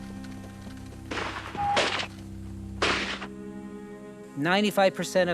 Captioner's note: gunfire